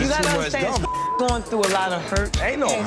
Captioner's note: beep